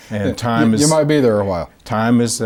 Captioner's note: laughing